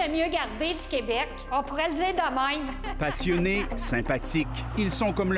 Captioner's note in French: rires